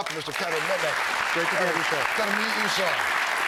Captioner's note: applause